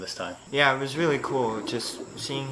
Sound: ocean whistling gently

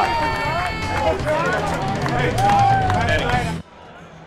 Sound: fans cheering

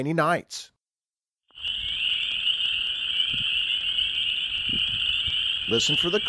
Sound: frog and toad sounds

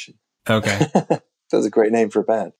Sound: laughter

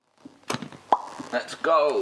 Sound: pop!

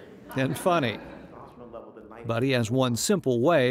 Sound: laughter

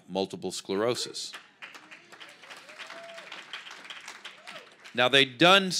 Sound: congregation applaud

